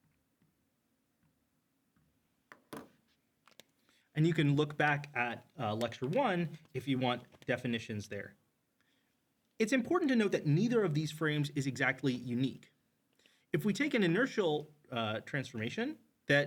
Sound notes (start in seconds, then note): 2.5 marker clacks